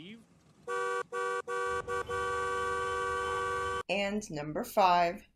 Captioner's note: obnoxious honking